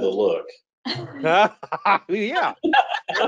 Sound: laughing

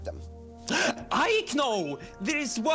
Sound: gasp

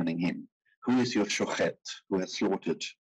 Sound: speaking in foreign language

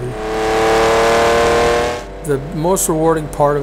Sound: engine revs

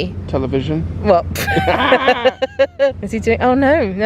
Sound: both laughing

